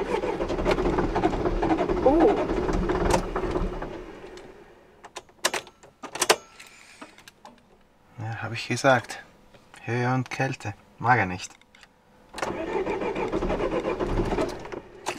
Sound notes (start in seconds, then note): 0.0 engine sputters; 3.2 engine dies